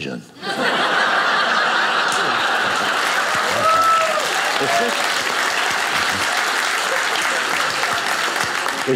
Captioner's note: audience applauding